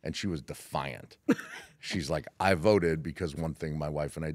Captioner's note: laugh